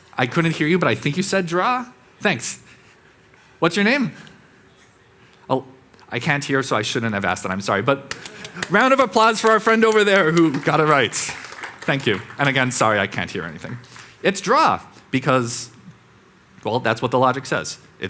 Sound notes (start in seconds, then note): 11.5 audience clapping